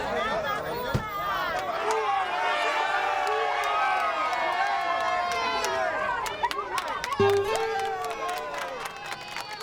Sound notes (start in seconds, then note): 2.7 cheering; 7.5 applause